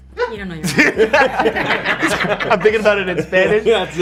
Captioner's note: laughing